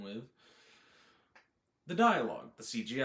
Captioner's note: dramatic inhale